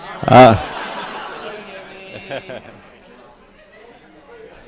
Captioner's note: laughter